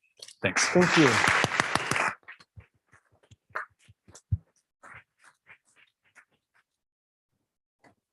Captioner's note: applause